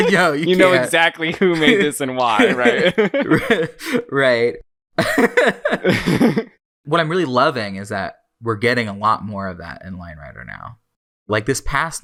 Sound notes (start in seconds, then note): 1.1 laughs; 3.8 laughing; 5.6 both laugh